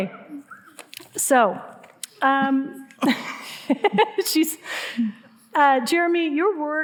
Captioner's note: laughing